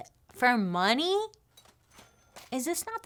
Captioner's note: cash register chimes